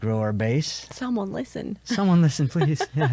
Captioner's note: laughs